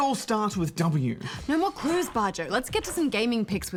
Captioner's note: gasps